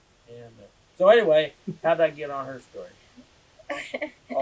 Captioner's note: laughter